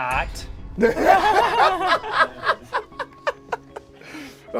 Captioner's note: group laughs